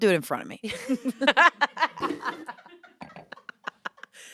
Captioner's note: laughter